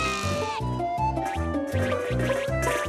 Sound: beans bounce

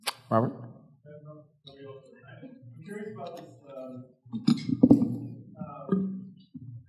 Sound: mumbles

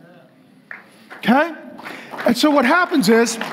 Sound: congregation applauding

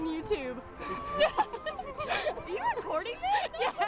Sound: people laughing

